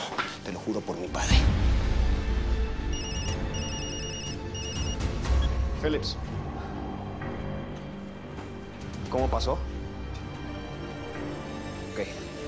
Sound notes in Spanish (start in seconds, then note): 2.9 Suena el teléfono